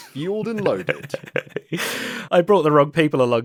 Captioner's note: laughs